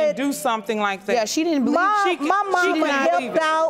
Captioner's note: audience exclaiming